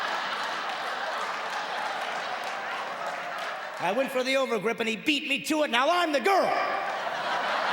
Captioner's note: audience laughing and clapping